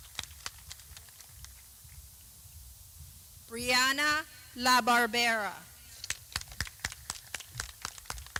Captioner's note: clapping